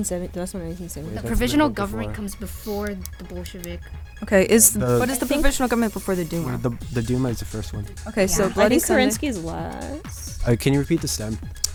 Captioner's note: wispering